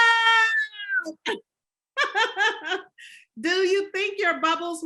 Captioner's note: laughs